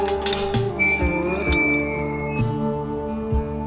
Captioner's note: gate squeaks